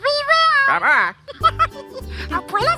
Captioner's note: giggles